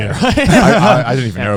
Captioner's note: affirmative murmuring